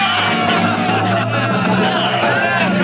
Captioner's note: hooting and hollering